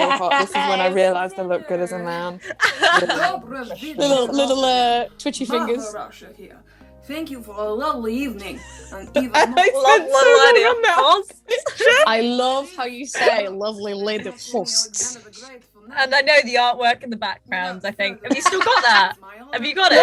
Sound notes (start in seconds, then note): 6.6 Sketch audio plays; 8.9 laughing at herself